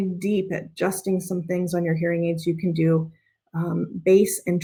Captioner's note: none